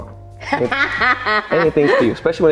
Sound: laughing

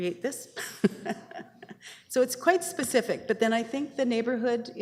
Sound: chuckling

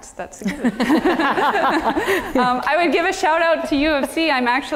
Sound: laugh

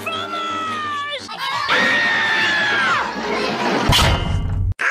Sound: all yelling; clang!

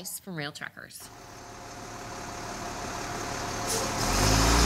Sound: truck engine roaring

